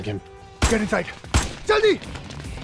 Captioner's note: Bullet firing